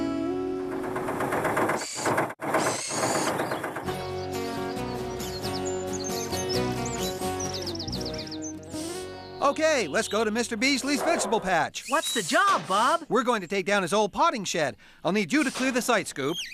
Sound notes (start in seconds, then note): 1.1 engine Running